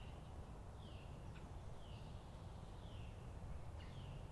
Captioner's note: birds chirping